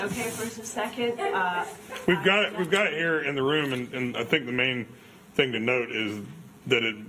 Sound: laughter

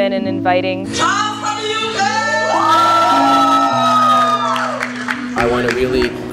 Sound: cheers

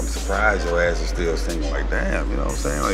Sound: none

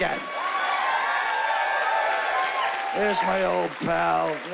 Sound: cheering and whooping

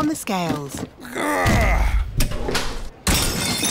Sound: grunts; crashes

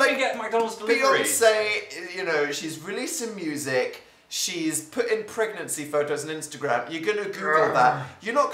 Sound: P: *groans

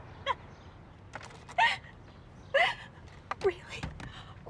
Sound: loud sobbing

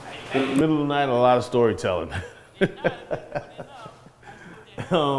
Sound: laughs

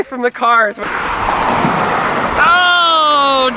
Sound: truck zooming

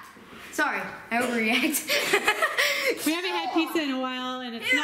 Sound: laughing

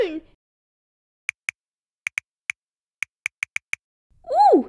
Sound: typing

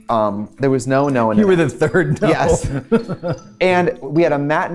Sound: laughs

